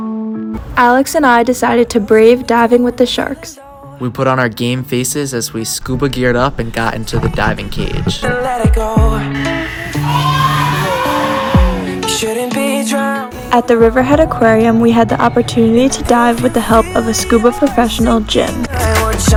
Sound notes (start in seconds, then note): 9.3 people shout